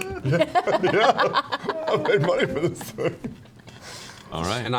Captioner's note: laughing